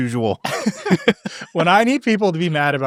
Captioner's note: attendees laughing together